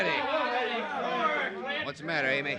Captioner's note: chatter